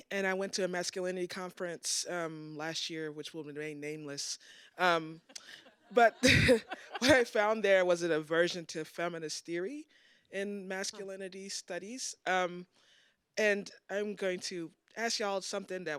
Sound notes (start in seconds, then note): 5.3 audience laughs